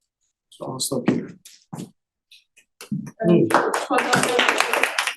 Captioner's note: audience clapping